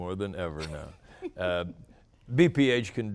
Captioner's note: laughter